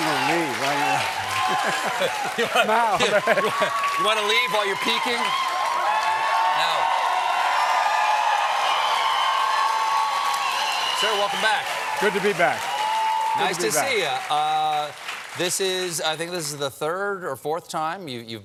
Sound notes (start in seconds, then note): 4.8 applause; 4.8 cheers